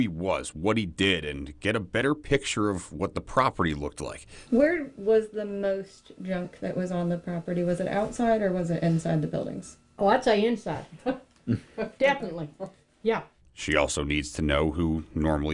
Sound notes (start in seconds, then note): 11.4 laughs